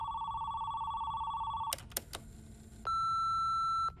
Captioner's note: phone clicks, voicemail beeps